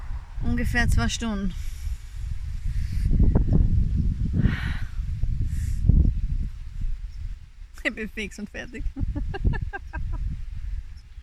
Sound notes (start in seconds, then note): 5.4 wind; 8.8 laughter